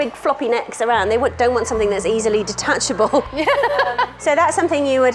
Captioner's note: laughing